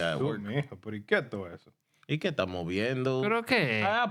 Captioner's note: speaking In Foreign Language